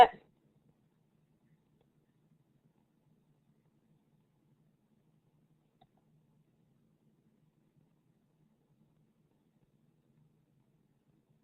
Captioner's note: silence